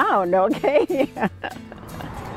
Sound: laughter

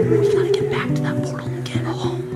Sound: whispering

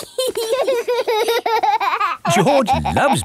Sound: laughing

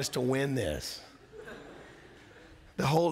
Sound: laughter

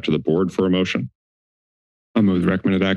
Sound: silence

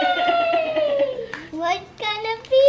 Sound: laughs

